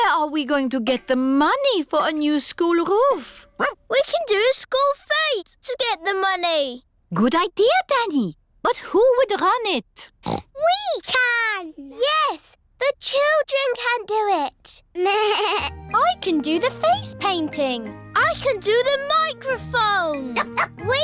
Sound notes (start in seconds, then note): 10.2 snorts; 15.2 bleats; 20.3 barks